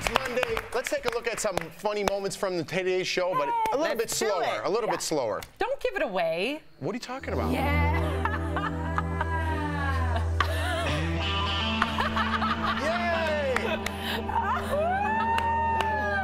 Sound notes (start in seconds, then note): 11.7 laughter